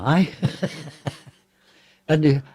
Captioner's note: laughter